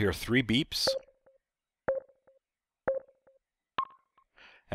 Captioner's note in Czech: pípnutí